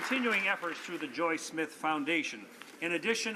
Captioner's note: some Applause